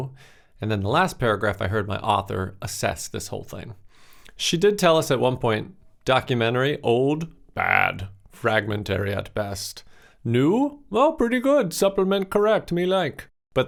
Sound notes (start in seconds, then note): 6.9 caveman Voice